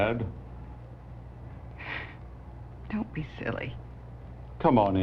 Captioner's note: sighs